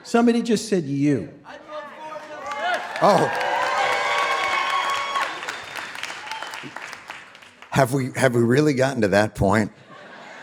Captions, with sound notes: - Somebody just said, "You." [people shouting] - Oh. [audience applauding and cheering] - Have we, have we really gotten to that point?